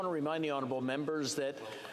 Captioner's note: some Applause